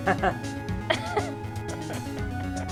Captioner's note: laughs